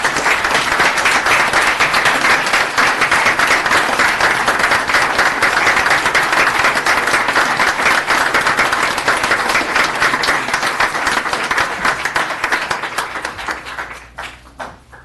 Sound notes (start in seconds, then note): 0.0 applause